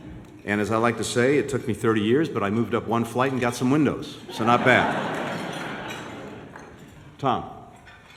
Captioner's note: laughter